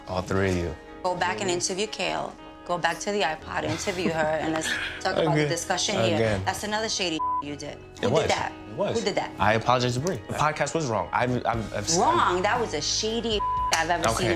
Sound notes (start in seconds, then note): 7.1 beep; 13.3 beep